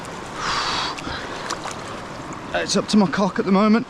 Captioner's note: gasping